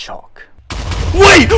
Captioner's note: explosions